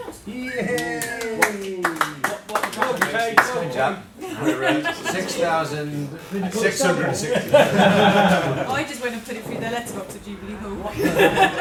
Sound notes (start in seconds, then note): 0.4 applause and cheering; 6.9 laughter